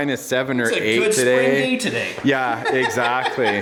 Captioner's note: laughs